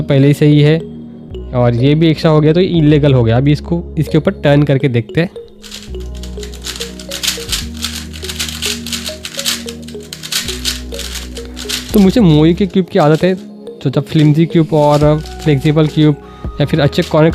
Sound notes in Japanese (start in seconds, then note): 5.6 回転音